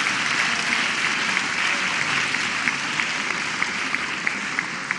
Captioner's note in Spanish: aplausos